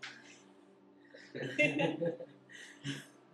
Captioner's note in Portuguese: Risos